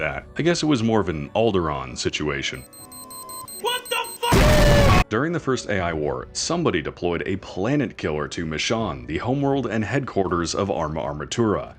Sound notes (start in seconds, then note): 0.0 stumbling over words; 4.3 explosion